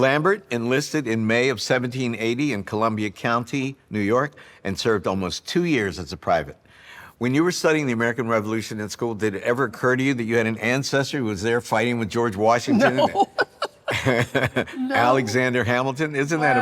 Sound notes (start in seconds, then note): 12.7 laughing; 12.7 laughs